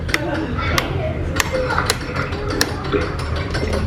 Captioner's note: switches clicking; winch clanking